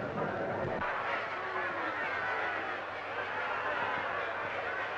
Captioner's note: crowd shouting